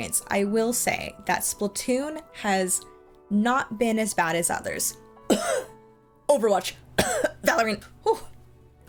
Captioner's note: cough